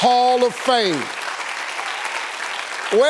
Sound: applauding

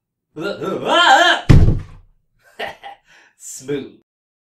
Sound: gasp!

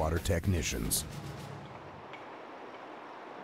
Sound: voiceover

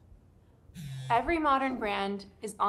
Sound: phone buzzes

